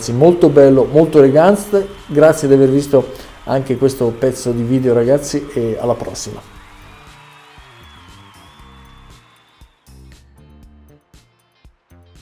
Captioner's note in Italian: Applauso